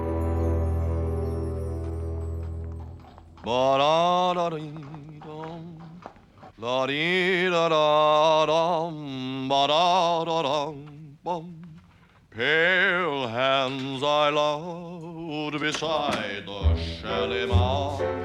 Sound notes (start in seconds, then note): 3.1 # Wooster hums; 6.4 # Hums